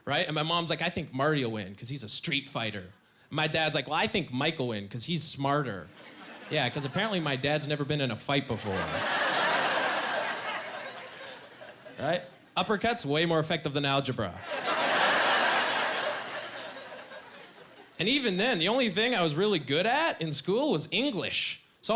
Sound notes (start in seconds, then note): 14.5 laughing